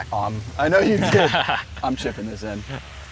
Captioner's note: laughs